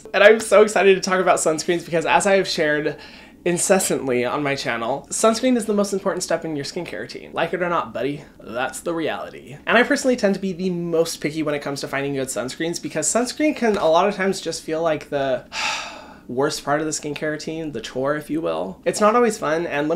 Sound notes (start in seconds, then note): 15.5 sighs